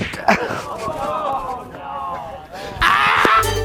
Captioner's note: people gasping